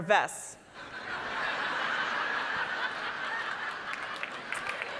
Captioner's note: audience laughing